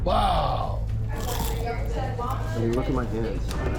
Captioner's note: crunch